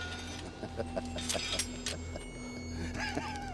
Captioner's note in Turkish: Gülme sesi